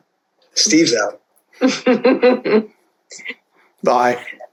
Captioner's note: laughs